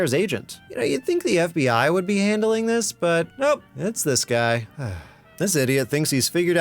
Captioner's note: sigh